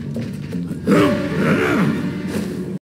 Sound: Manly Grunts of Mr. Peterson

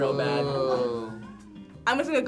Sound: group oohs

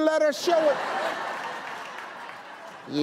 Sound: audience laughing

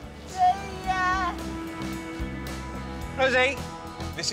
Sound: none

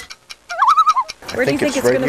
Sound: loon call

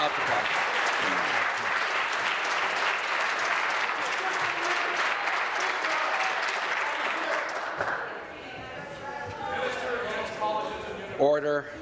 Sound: applause

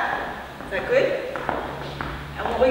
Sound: feet tapping

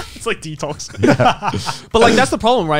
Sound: laughing

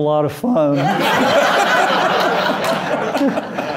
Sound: laughter

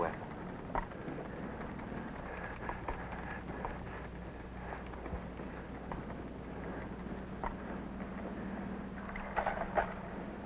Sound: soldier breathing heavily

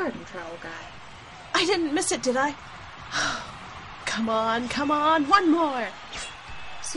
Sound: sigh of Relief

